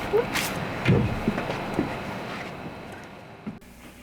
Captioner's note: chair slides